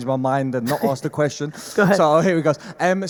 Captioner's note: Gary laughs